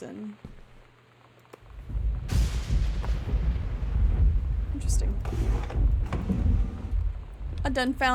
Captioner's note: loud Thunder